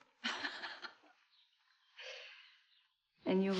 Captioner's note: laughs